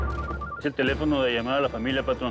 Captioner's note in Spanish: suena el celular; habla entre dientes